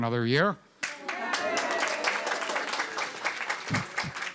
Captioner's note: applause